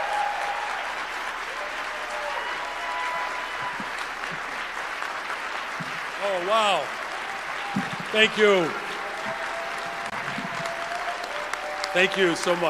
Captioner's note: cheering and applause